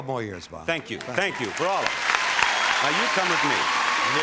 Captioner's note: audience applauding